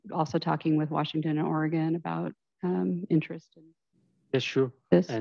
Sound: speaking faintly

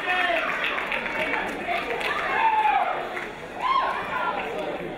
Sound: crowd chattering

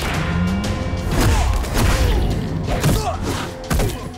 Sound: grunting

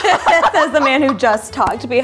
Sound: all laughing

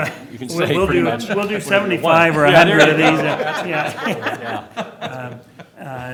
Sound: laughter

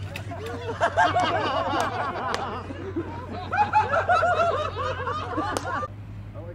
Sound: laughter

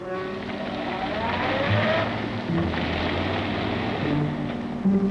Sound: engine rumbling

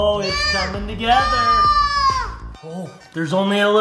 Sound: yelling

